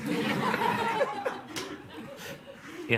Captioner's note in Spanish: Risas